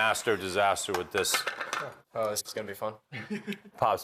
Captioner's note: laughs